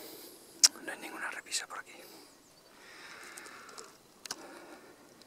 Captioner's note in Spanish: suspiro